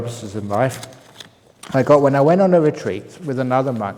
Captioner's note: none